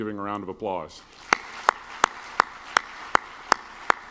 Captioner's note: clapping